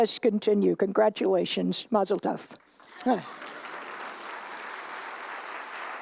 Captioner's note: applause